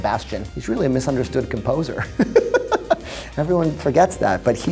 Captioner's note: laughs